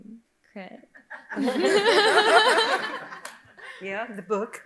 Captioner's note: audience laughing